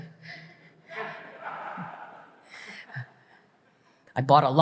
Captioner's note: audience laughs